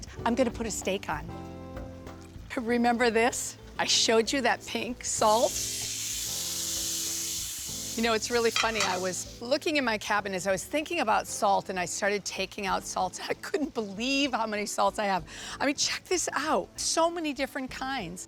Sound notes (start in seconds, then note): 5.3 sizzling